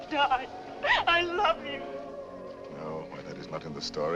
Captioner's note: sobbing